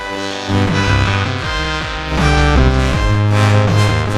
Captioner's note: hissing